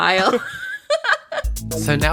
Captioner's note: laughs